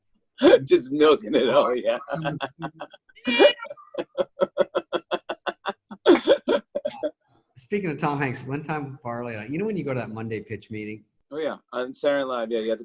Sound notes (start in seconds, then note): 0.0 laughs; 1.8 laughter